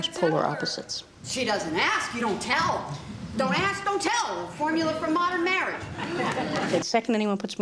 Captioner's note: laughter